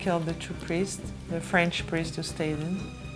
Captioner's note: speaking French